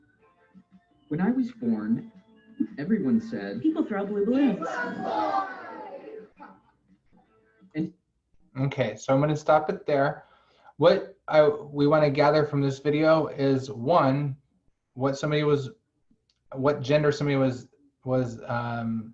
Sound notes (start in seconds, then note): 7.1 laughter